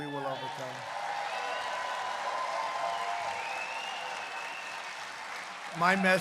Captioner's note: applause